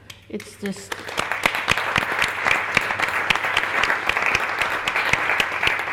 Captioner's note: audience applauds